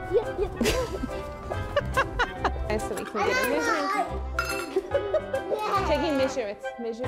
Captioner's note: laughing